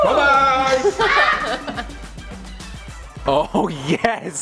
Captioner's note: laughing